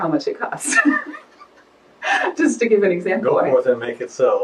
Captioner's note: laughs